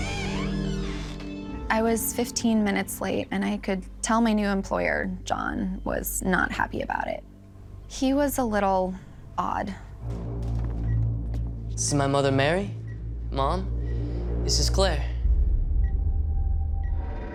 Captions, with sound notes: I was 15 minutes late, and I could tell my new employer, John, was not happy about it. He was a little odd. This is my mother, Mary. Mom, this is Claire. [beeping] [ominous music]